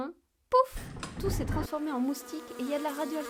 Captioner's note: bang